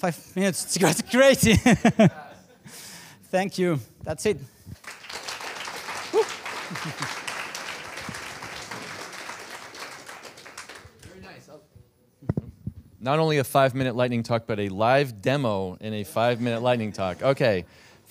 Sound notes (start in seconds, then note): 0.7 laugh; 4.8 applause